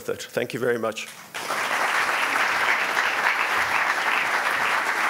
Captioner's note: audience applauding